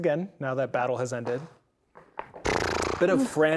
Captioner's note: dice rolling